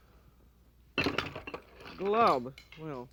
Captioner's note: dishes rattling